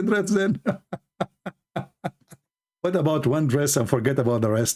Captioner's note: Ketawa